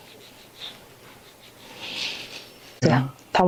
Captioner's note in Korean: 콧방귀